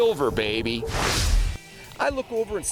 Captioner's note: swooshing